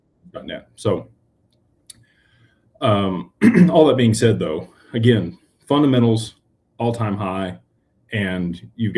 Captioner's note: clears throat